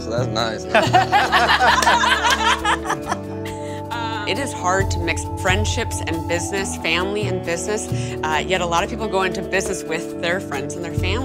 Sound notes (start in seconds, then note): 3.3 laughing